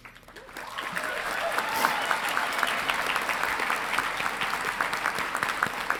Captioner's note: audience applauding and cheering